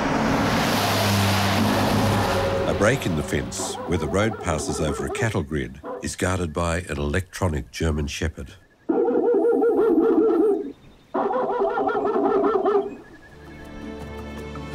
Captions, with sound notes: A break in the fence where the road passes over a cattle grid is guarded by an electronic German shepherd. (recording of dog barking playing)